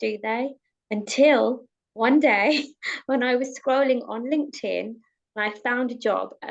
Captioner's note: chuckles